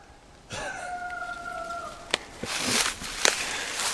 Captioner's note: coyote howls; howling back